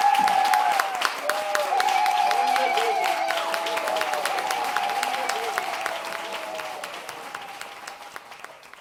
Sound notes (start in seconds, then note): 1.7 audience ululating